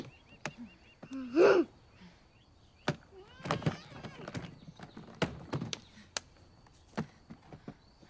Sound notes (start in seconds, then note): 4.8 slaps